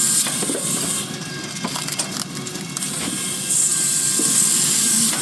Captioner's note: drill whirring